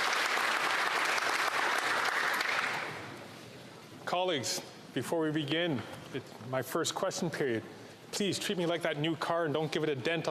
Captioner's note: applause